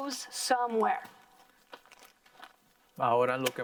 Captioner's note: plastic rustling; in foreign language